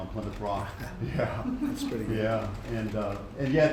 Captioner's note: laughter